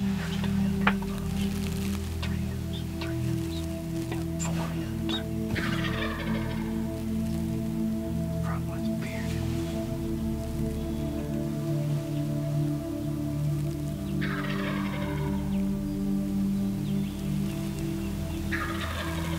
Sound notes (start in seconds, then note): 0.9 whispering; 10.3 whispering